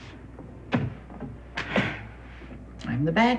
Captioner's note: sighs